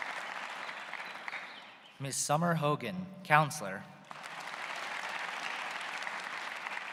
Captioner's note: applause